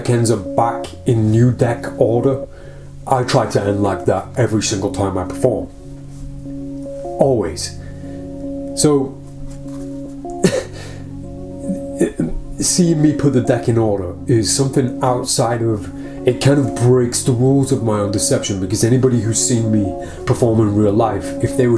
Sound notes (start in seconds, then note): 10.5 exhales